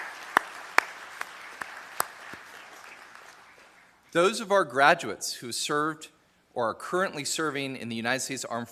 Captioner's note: applause